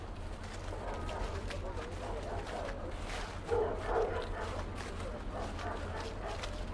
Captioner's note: dogs barking; people chattering